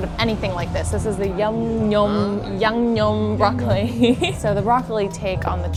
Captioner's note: giggles